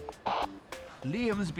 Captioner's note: radio crackles